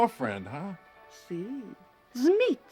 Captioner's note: speaking foreign language